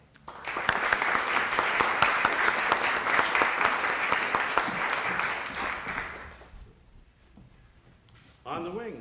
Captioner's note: applause